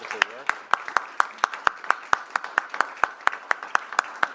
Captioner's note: audience applaud